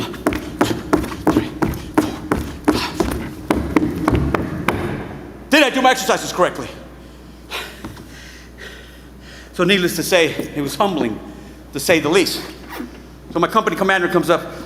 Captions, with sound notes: One, two, three, four, five. [boots thudding] Did I do my exercises correctly? [panting] So needless to say, it was humbling to say the least. So my company commander comes up,